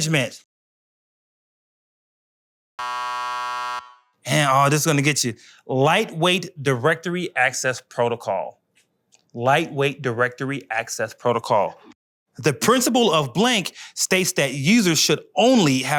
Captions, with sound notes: (buzzer) And oh, this is gonna get you. Lightweight directory access protocol. Lightweight directory access protocol.